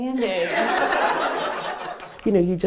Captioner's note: laughter